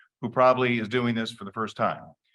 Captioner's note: none